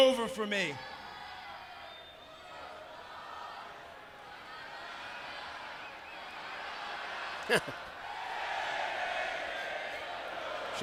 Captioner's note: crowd cheering